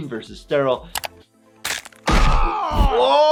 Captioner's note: crunching then thudding; Brian screams in pain